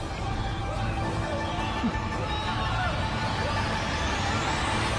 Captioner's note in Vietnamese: Vỗ tay